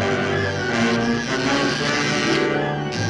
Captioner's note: buzzing